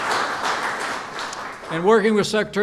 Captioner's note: applause